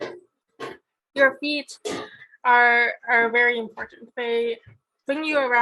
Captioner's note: metal clanging